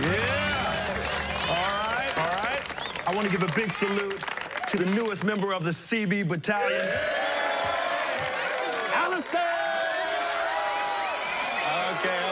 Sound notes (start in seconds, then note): 6.5 cheering; 10.9 applause, cheering & whistling